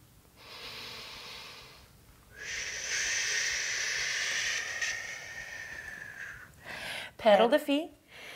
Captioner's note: inhale